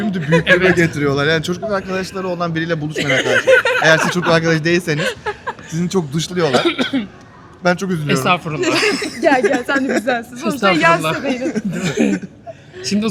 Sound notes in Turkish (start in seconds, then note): 0.0 kahkaha; 8.6 kahkaha; 11.7 boğazını temizler